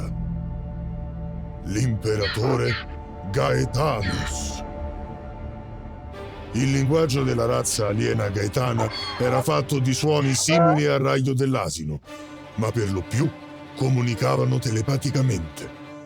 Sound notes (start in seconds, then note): 1.7 Donkey's bray; 3.4 tense music playing